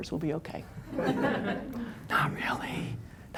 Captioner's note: laughter